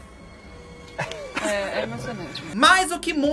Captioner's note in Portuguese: risos